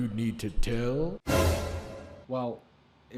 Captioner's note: dramatic clash